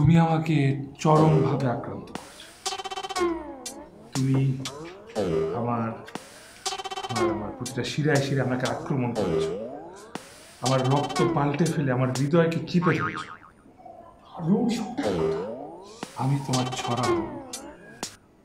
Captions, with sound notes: Listen, you have consumed me absolutely You have attacked all of my veins You have changed my blood and grabbed my heart (Magic mumbling) I am your poetry